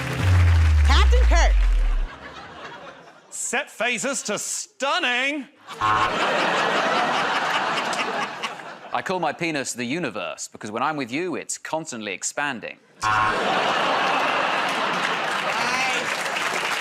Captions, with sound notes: [ Suspenseful sting plays ] [ Laughter ] -Set phasers to stunning! [ Buzzer ] [ Laughter and applause ] -I call my penis the universe because, when I'm with you, it's constantly expanding. [ Laughter and applause ] [ Buzzer ]